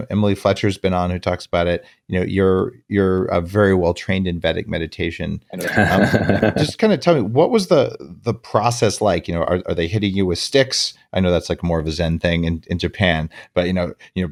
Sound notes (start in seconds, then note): 5.6 light laughs